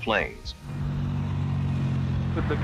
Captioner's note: truck driving